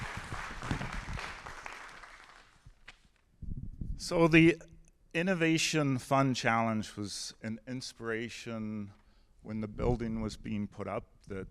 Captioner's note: applause